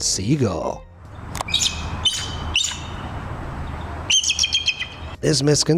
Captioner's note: eagle screeches